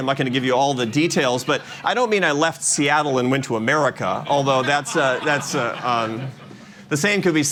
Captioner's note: laughter